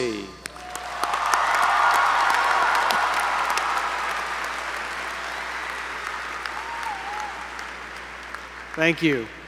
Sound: applause

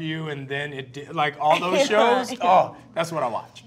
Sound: Kristen laughs

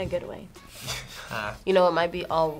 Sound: laughs

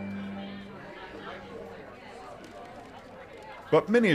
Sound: people chatter

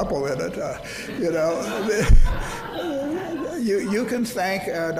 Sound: audience laughs

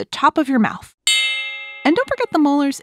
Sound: switch bell

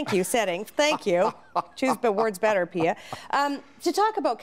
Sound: laughing

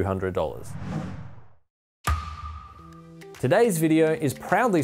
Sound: swoosh

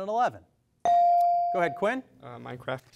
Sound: device dings

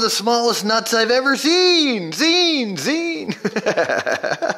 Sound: laughs

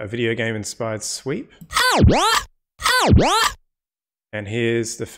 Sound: press 'D', a short electronic sound

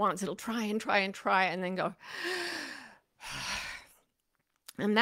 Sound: inhales and exhales deeply

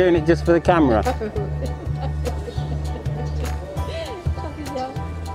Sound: laughs

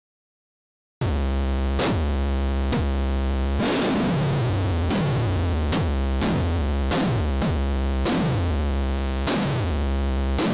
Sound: hit sound

